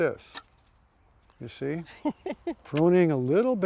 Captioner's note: laughs